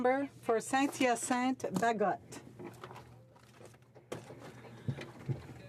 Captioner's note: speaking French